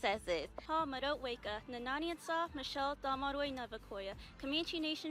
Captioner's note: speaking Comanche